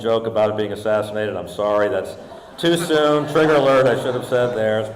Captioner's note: audience laughing